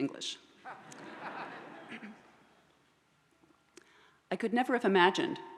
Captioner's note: audience laughs